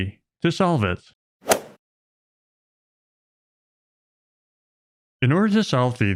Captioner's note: golf ball hit sound